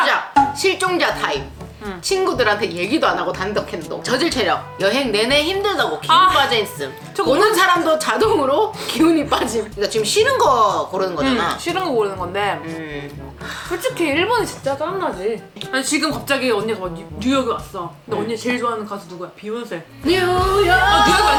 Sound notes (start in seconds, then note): 13.5 long sigh